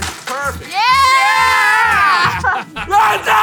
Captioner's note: laughs